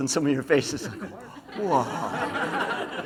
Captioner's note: laughs